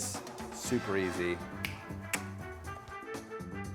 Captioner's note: snaps fingers and clicks tongue; upbeat horn music